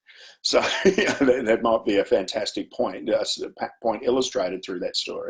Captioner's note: chuckles